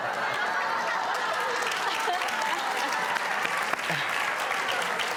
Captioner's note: audience laughs and claps